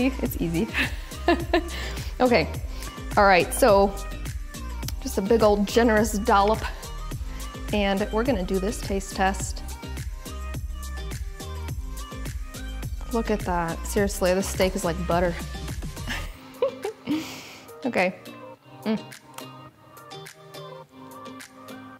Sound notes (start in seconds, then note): 1.0 laughing; 10.1 light music; 16.0 giggling; 18.8 light music